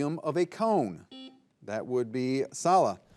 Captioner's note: buzzer buzzing